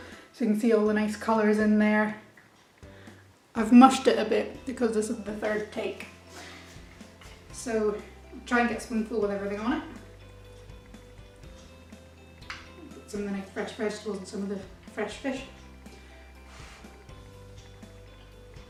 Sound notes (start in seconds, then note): 15.9 blows